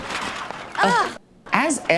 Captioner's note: groaning